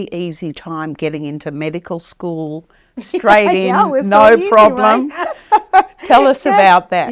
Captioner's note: laughing